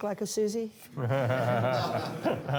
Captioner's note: laughter